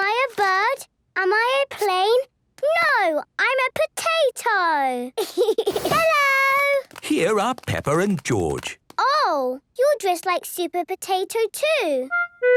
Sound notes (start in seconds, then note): 5.2 giggles